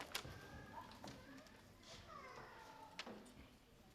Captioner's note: baby crying